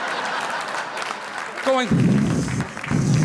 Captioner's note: imitating whooshing